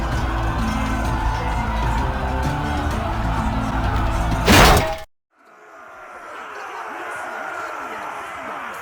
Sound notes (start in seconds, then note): 4.4 bonk